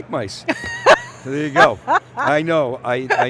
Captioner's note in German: lacht